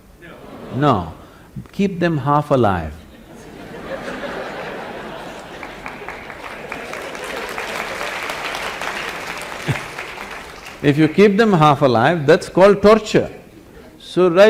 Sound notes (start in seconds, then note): 6.7 laughter/Applause